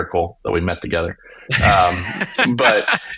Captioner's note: laughing